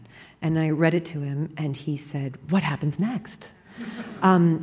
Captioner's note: laughter